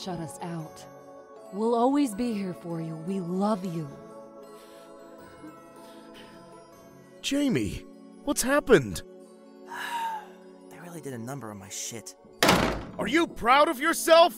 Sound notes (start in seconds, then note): 5.2 sighs